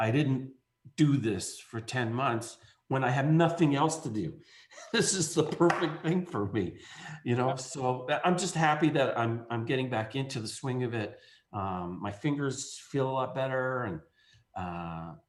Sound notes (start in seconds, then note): 4.7 laughs